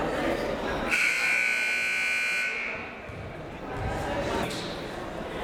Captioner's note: siren buzzing